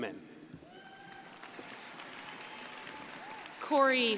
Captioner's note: crowd applauding